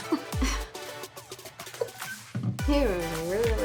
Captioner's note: laughs